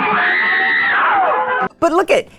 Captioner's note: scream!